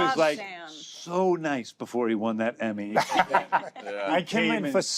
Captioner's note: laughter